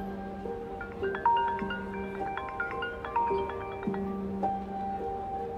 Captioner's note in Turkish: Telefon çalıyor